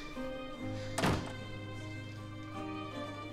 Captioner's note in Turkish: Kapı kapanma sesi